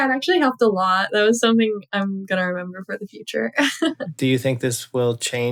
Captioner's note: laughter